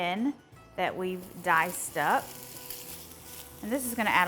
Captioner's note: bacon sizzles